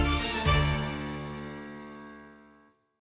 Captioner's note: echoes